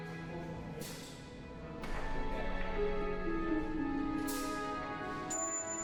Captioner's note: rustling shop noises